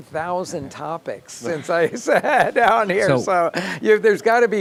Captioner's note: laughing